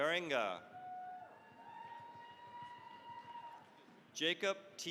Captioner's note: cheering, applause